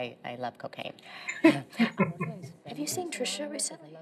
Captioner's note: chuckling